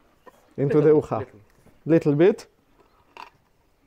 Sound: speaking foreign language

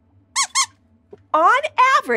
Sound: squeaks squeaks

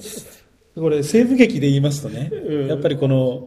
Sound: laughs

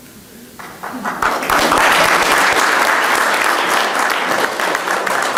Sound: audience applauding

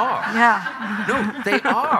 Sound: audience laughing

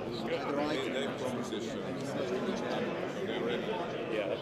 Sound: speaking foreign language

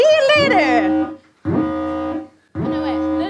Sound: siren

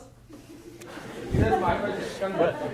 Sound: audience laughing

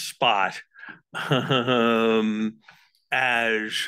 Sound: chuckles

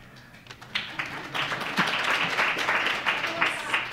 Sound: applause

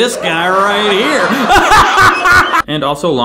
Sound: laughs

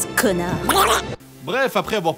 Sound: duck noise

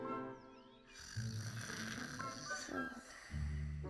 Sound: both snoring

